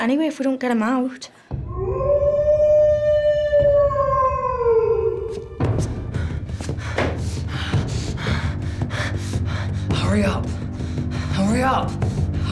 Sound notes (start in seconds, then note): 1.7 Rhydian howls; 8.3 panting